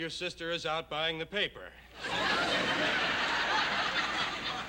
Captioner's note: laughter